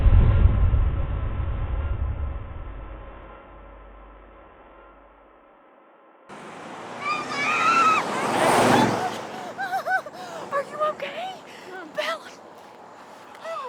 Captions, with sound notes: (woman screaming) - Are you okay? - Are you okay? Bella!